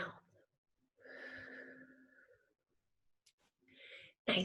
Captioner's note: exhales